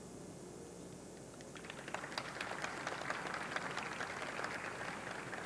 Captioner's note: audience clapping